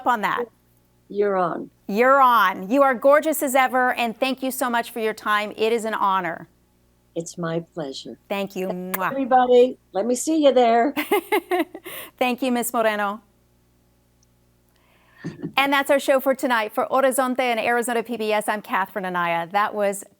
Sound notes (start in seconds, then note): 11.0 laughs